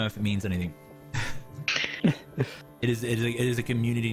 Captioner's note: soft chuckles